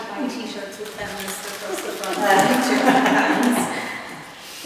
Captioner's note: laughter